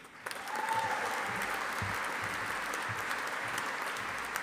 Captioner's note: audience applauding